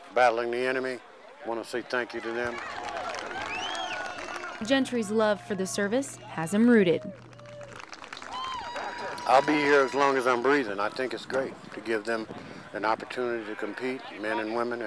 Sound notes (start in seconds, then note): 2.2 applause; 3.1 crowd cheering